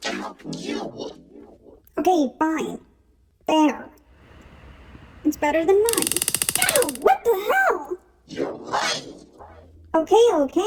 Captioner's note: taser Sounds